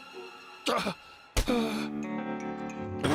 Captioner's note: sighs